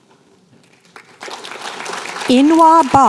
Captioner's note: applause